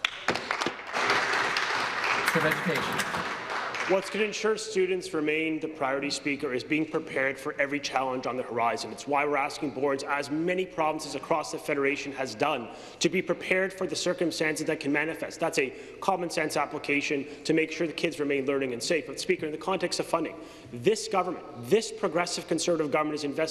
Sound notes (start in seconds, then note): 3.2 applause